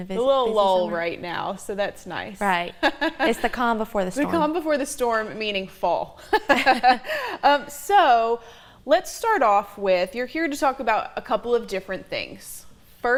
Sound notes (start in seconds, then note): 2.8 laughs; 6.2 both laugh